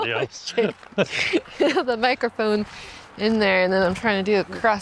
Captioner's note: laughing